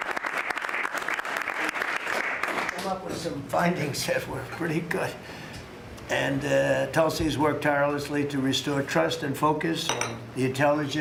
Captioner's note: applause